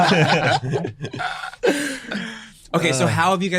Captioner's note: chuckles